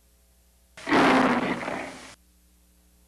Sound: roars like a lion

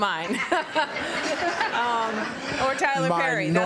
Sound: laughter

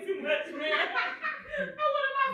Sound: laughing

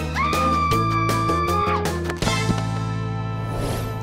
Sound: screams

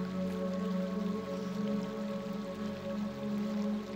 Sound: river flowing

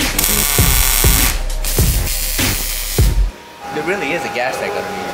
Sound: sparks buzzing

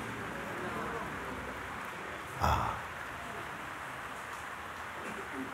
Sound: voices in audience

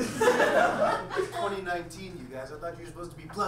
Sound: audience laughs

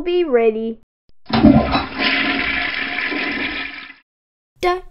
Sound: toilet flushes

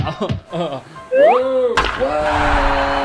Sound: man groaning; bat cracking; crowd cheering

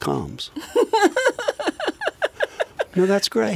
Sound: laughs

